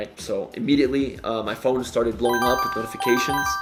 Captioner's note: phone bleeping